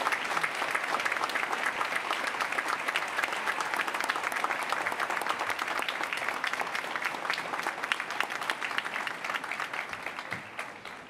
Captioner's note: applause